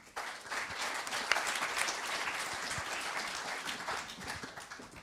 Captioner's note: applause